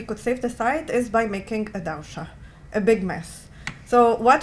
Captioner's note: non-english